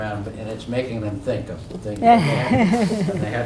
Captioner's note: laugh